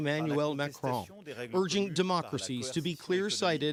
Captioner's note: speaking French